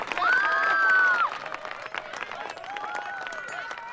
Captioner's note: screaming